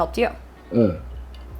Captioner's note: drinking